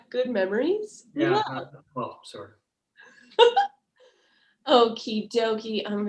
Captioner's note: laughing